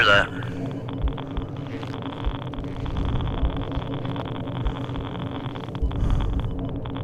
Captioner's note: machine keeps beeping; static clicking